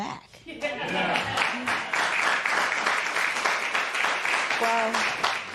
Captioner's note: applause